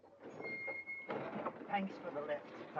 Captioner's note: brakes squeal